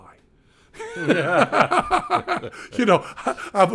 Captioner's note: Penn and Glenn laughing